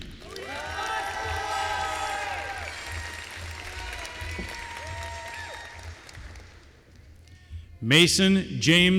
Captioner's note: applause